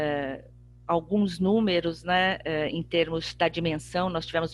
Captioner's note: speaking portuguese